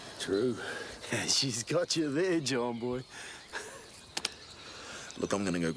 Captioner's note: laughs